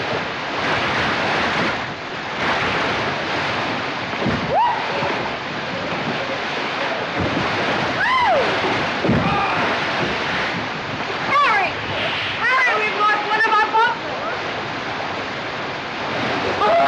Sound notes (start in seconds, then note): 4.3 squeals; 7.9 squeals; 7.9 shouts